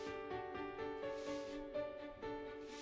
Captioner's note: sweeping